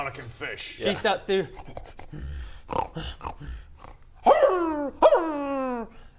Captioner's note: snuffle growl snarl awoo! Awooo!